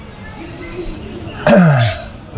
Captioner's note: throat-sound